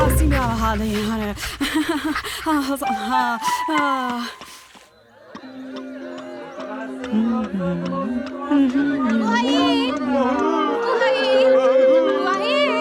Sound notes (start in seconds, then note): 7.8 humming to herself; 10.4 sellers speaking in the background